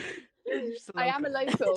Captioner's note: laughter